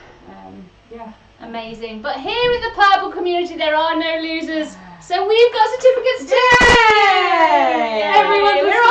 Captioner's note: they cheer